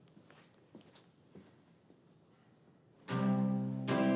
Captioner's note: footsteps thumping